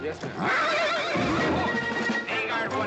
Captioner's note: horse neighing and throwing a fit